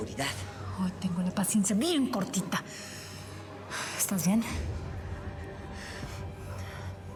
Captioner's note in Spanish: exhala